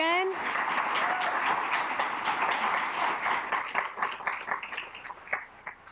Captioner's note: assembly cheering; assembly clapping